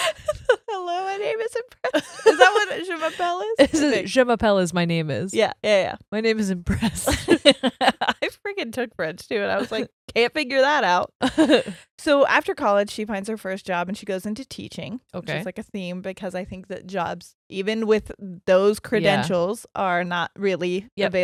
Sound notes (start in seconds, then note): 7.0 both laughing; 10.9 laughs